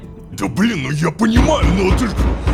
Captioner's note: knock on the door